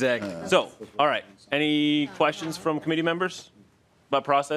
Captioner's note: laughing